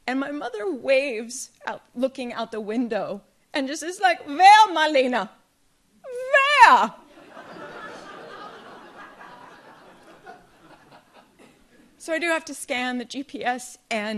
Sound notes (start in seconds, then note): 7.1 audience laughs